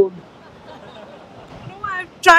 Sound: laughter

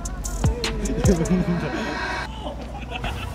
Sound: cracking up at himself for laughing while acting

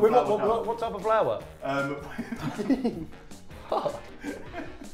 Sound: laughing

